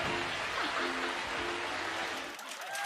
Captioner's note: cheers and applause; laughs; cheers and applause